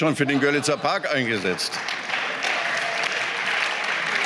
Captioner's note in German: Beifall